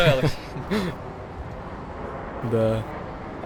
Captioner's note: laughing